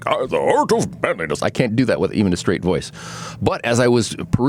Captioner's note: ridiculous accent